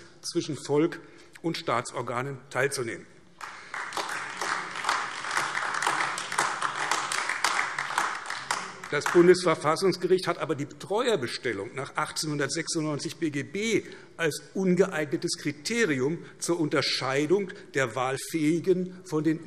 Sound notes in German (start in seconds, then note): 3.3 Beifall AfD